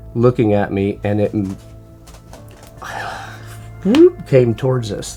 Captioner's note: mouth rumbling